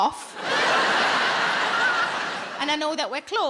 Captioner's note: audience laughing